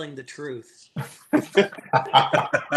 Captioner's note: laughter